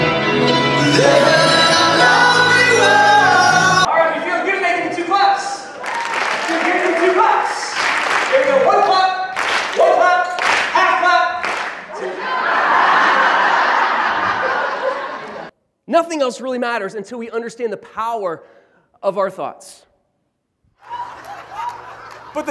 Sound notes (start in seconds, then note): 12.0 laughter